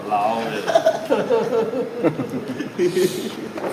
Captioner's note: laughing and chuckling